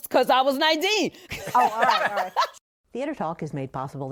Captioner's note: laughter